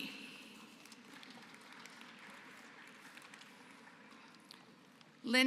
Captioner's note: applause